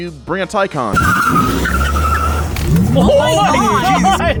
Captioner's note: tires screech